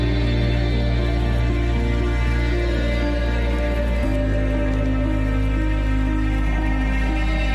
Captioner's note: stirring music continues; water lapping continues